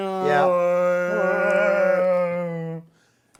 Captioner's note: groaning